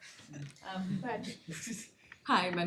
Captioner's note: laughter